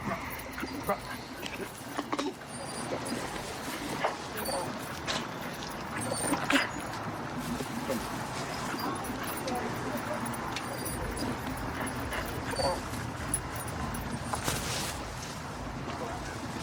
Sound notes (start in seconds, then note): 3.9 dog whining